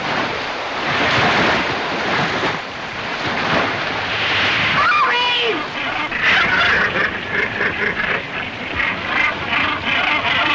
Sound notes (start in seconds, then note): 5.5 squawking